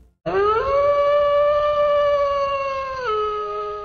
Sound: wolf howling

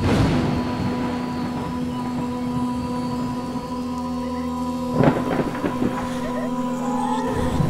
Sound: man and woman chattering

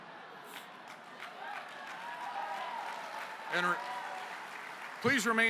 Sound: applause

